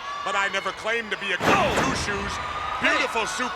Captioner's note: body thudding